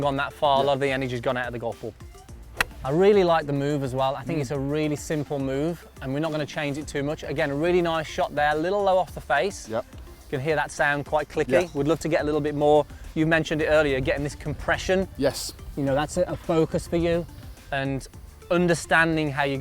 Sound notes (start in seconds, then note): 2.4 golf club hitting ball